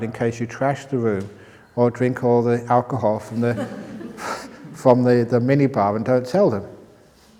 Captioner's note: laughter